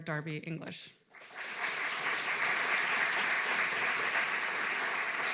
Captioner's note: audience clapping